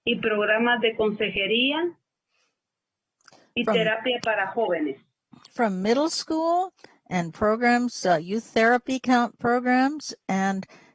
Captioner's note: speaking spanish